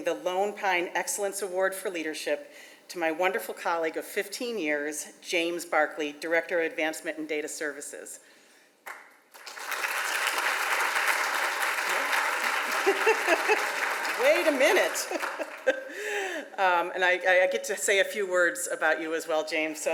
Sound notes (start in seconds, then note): 9.3 audience applauds; 11.9 laughs